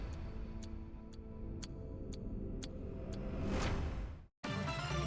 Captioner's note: upbeat music; clock ticking; upbeat music